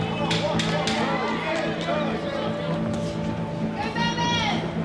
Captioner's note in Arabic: تشجيع الجماهير